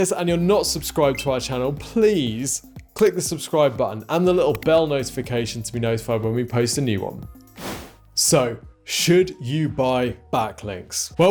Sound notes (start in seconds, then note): 7.5 air whooshing